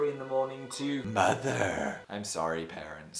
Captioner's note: in an ominous voice